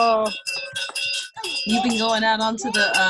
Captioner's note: bells chime